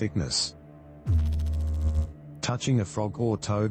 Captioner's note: electrical noise